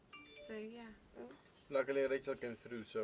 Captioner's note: phone notification